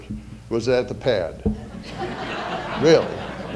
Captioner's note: audience laughter